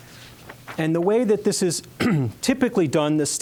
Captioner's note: clearing throat